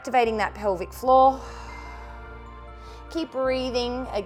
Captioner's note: exhales